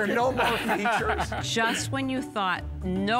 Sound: laughs

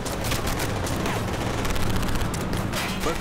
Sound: rapid gunfire exploding

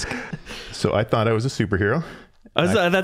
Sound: laughing

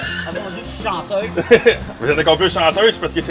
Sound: laughs

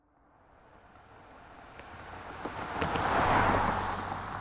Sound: car drives

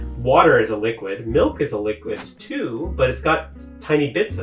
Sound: air whooshing

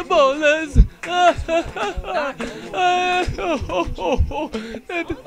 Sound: audience Disapproval

